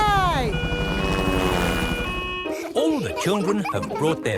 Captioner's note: siren wailing